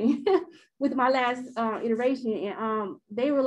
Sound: chuckles

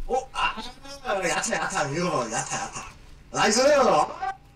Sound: speaking Korean

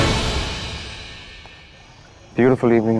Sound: footsteps

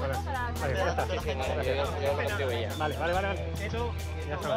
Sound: Spanish spoken audio

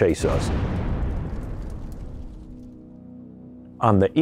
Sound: bomb exploding

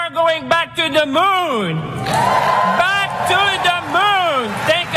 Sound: applause

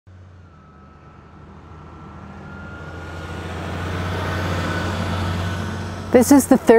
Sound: engine revving

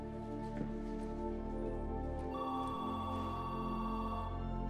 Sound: telephone ringing

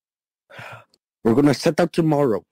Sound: Flint sighs

